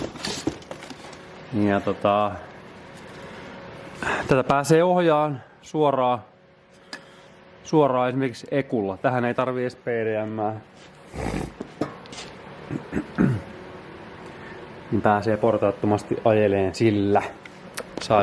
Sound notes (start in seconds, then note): 11.0 snort; 12.6 clears throat